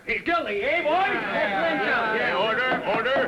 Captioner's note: men all agreeing